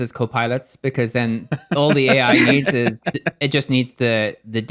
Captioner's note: laugh